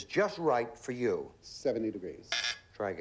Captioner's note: buzz buzz